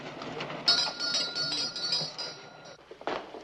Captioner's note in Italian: campanello